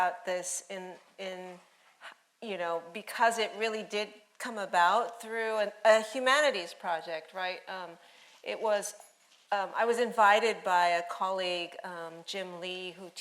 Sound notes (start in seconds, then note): none